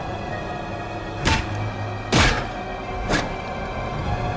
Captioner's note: head thuds